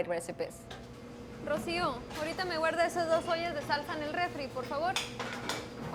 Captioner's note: speaking foreign language